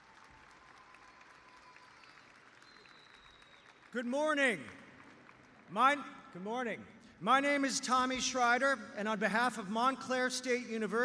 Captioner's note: applause